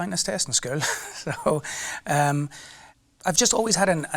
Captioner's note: laughing